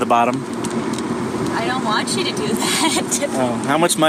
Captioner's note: laughs